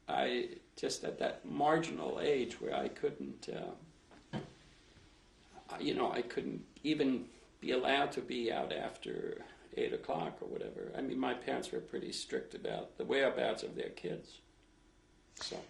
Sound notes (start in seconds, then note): 3.1 pauses for 3 seconds